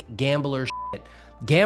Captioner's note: beep